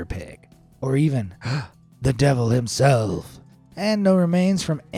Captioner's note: gasps